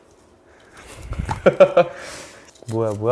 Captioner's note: crack